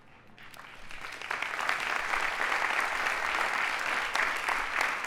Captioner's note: audience applauding